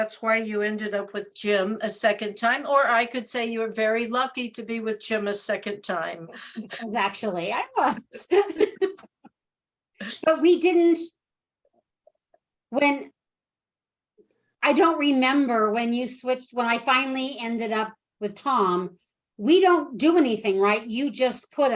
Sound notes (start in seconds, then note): 8.1 chuckle